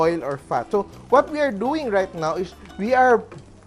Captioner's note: sizzle